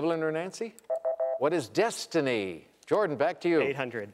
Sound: electronic beeping

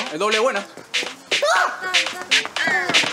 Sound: screams

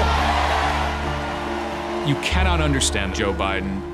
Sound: crowd cheers and applauds

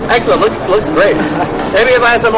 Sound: laughs

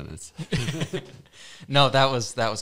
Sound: laughs

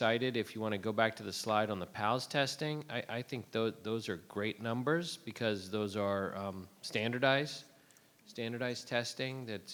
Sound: none

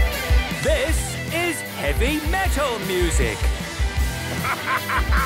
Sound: shouting

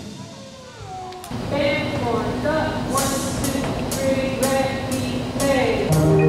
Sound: band hisses

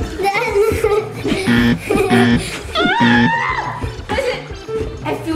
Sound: buzzer sound

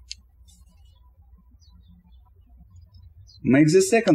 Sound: birds chirping

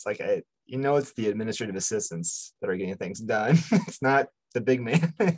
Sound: laughs

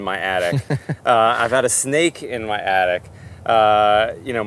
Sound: laughs

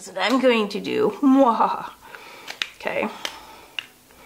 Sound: laughs

